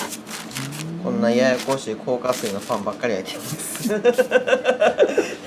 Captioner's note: laugh